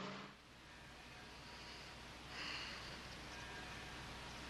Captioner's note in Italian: none